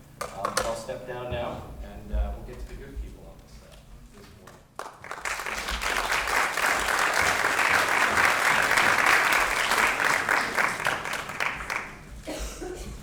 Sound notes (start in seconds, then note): 4.4 applause